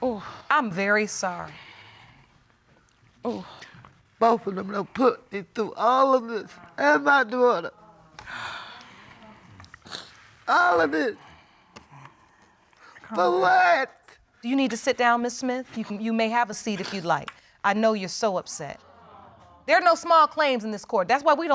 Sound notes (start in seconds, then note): 8.2 sniffles